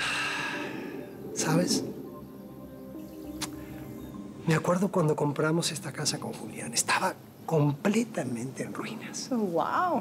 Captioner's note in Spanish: exhala